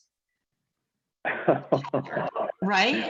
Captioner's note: chuckles